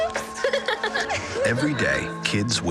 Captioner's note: giggling